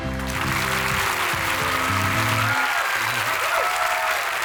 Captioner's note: audience applauds